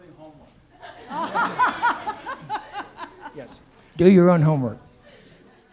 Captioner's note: laughter